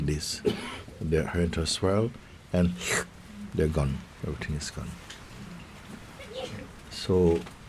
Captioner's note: sucking noise